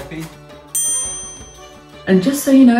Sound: ding sound effect

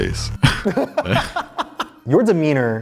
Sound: laugh

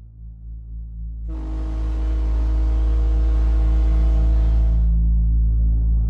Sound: ferry horn

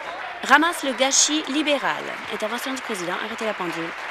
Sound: voice trailing

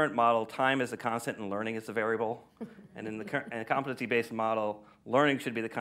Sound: laughter

